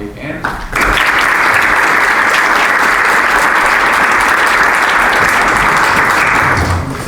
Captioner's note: applause